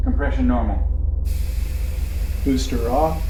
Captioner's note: spaceship whirring